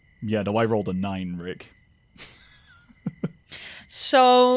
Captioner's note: laughs